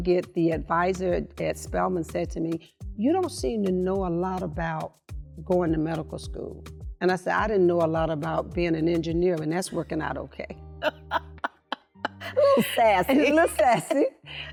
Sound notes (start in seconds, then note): 12.0 laughing